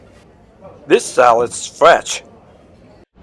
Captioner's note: voiceover